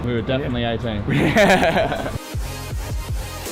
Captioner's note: laughter; techno music